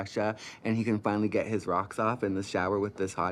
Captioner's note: none